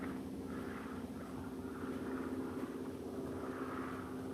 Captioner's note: airplane buzzing